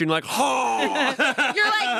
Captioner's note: yells